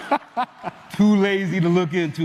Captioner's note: laughter